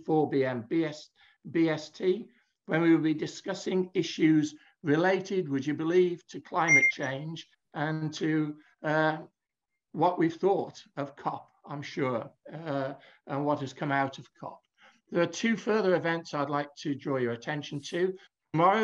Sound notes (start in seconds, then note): 6.6 device pinging